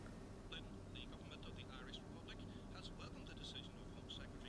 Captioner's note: television chatter